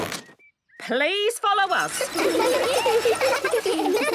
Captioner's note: laughter